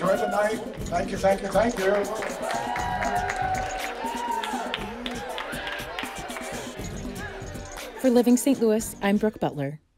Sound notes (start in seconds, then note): 2.3 people cheering and applauding